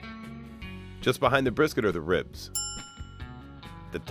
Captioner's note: bell dings